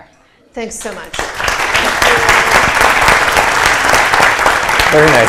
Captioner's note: applause